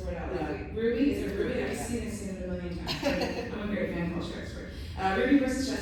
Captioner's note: laughter